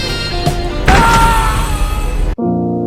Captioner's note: man screaming in pain; sad music